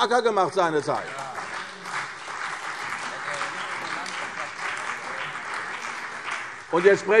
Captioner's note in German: Beifall CDU und BÜNDNIS 90/DIE GRÜNEN